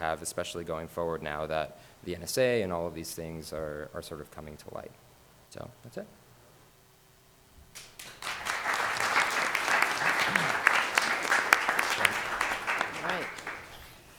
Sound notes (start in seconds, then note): 7.7 audience applauds